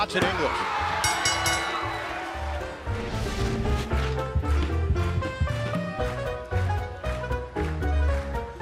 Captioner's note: bell ringing